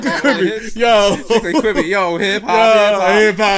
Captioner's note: laughs